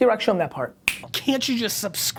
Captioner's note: snapping fingers